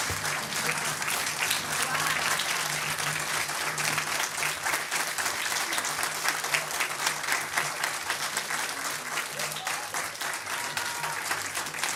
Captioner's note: applause